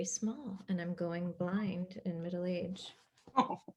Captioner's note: laughs